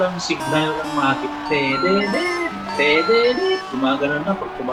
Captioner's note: no reception sound